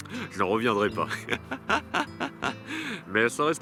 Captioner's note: laughs